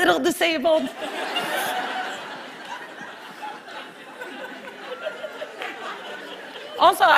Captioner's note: laughter